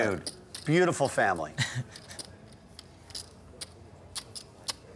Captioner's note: laughing